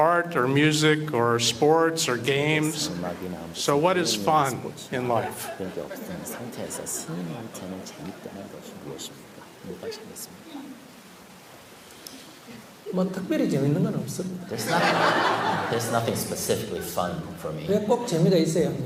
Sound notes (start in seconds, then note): 14.5 audience Laughter